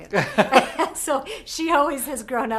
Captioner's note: laughs